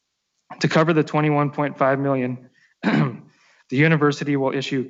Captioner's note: clears throat